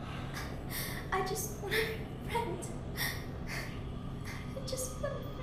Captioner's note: sobbing